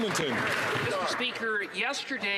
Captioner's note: applause